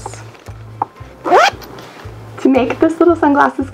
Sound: zips up case

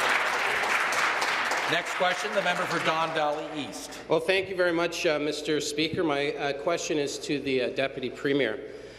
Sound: applause

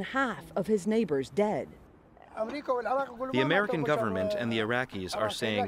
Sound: through translator

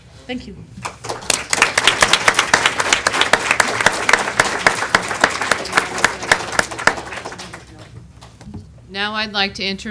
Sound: applause

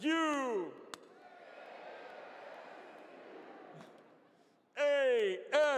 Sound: audience responds

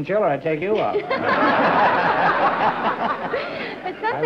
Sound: laughter

